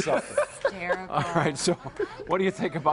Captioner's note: laughter